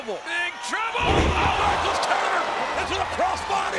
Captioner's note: audience groans